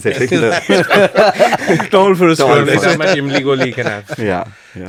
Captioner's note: laughs